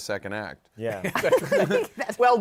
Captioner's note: laughter